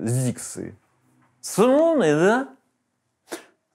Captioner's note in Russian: с пьяной манерой